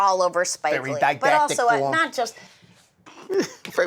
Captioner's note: woody allen voice